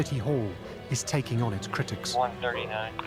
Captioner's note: chatter over police radio